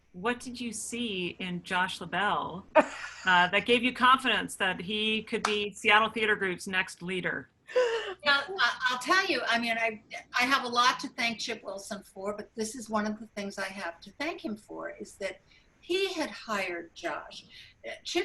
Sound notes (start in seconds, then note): 7.7 laughing